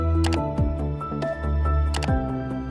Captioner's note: gentle music; mouse clicking